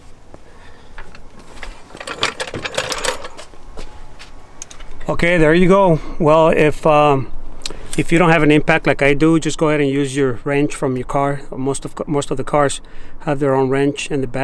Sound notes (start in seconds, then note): 2.4 jack rolls